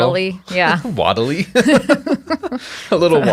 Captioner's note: chuckling